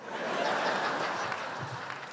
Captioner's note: laughter